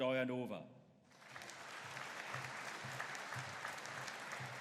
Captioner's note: audience applauding